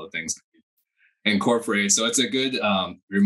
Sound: microphone cuts out

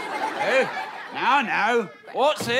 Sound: Scottish accent

